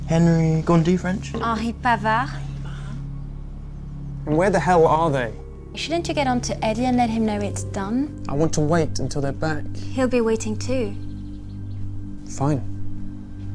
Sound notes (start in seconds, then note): 1.4 speaks in French